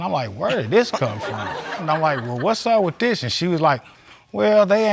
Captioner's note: audience laughing